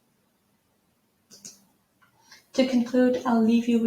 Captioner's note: mouse clicking